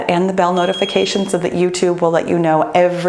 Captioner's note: bell rings